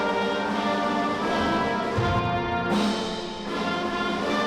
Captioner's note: none